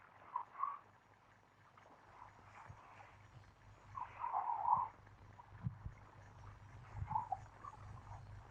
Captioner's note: silence